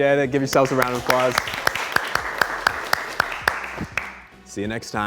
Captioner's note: group applauds